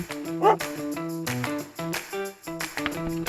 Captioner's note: dog barks